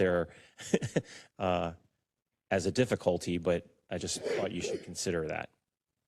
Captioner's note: laugh